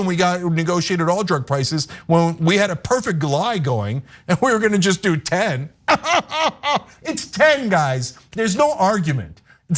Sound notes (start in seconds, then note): 5.8 laugh